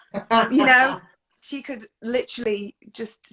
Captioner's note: laughs